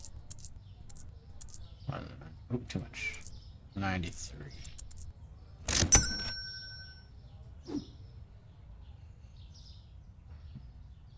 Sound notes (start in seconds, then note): 1.3 mumbling to myself